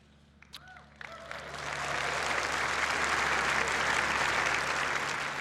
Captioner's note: applause